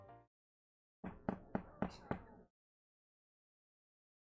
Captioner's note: gavel knocking